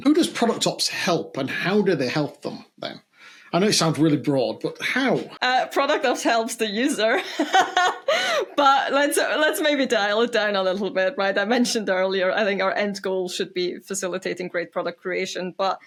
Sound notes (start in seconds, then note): 7.1 laughs